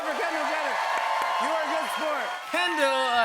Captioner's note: cheers and applause